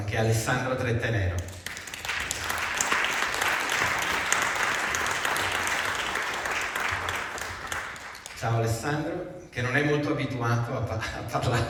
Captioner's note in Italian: Applauso